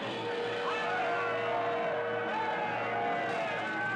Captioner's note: yelling